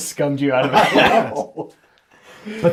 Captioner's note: all laugh